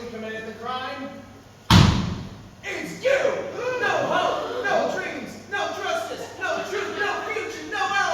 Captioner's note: stamps foot very loudly